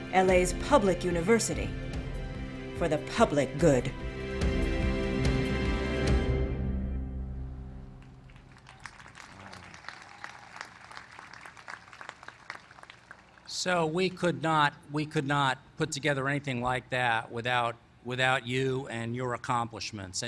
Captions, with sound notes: LA'S PUBLIC UNIVERSITY FOR THE PUBLIC GOOD. [APPLAUSE] - SO WE COULD NOT PUT TOGETHER ANYTHING LIKE THAT WITHOUT YOU AND YOUR ACCOMPLISHMENTS